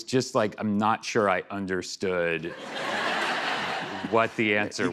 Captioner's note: laughter